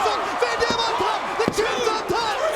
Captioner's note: mat slapping